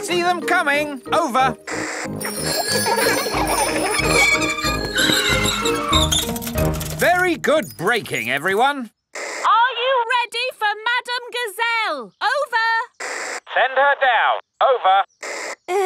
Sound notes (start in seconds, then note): 2.2 giggling and ringing bells; 3.4 tires screech; 14.6 walkie-talkie crackles